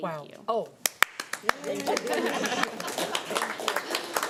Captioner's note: applauding